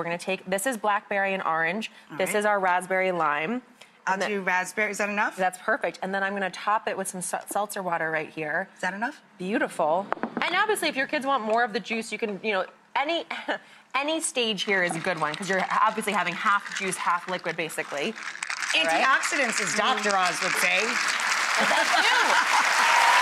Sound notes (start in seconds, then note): 17.9 ice cubes clinking in jars; 21.0 clapping; 22.9 audience cheering